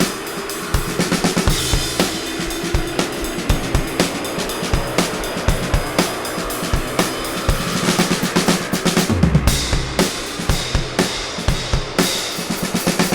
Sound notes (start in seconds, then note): 7.3 bikes droning; 7.3 upbeat music